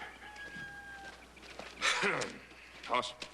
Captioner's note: clears throat